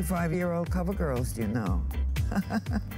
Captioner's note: laughter